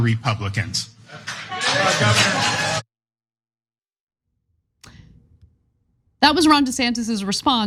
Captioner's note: applause